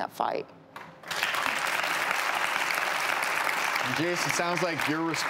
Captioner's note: audience clapping